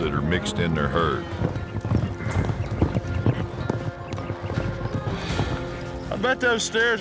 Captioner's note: hoof beats